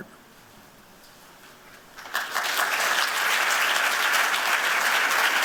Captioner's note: applause